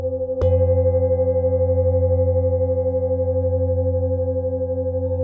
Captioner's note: sound of bowl